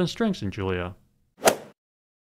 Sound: swoosh

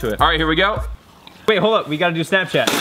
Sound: sipping

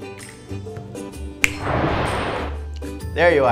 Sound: finger snaps

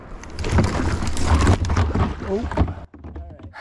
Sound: loud commotion

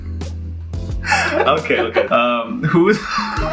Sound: laughing

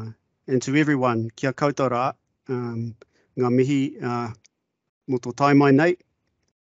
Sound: speaking in te reo Māori

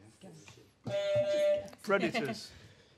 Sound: honk

